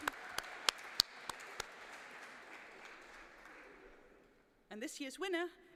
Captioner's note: applause